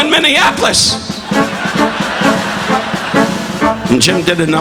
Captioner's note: audience laughing